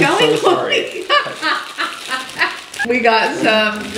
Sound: laughs

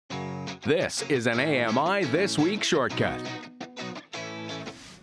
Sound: voiceover

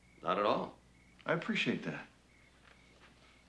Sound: whistling

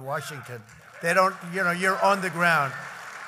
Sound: applause

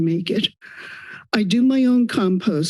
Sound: inhales

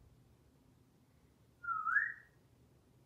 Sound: whistling

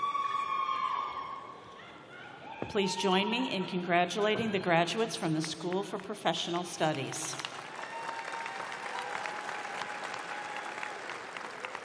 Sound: applause

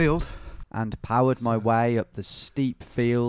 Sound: voiceover

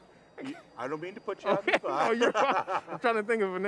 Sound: both laughing

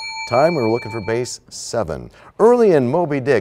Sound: bell rings, time expires

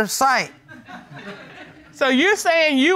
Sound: audience tittering

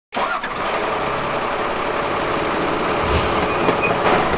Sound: truck starting; hammering, drilling

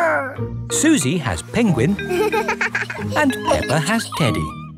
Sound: giggles

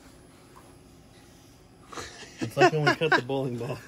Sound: laughs

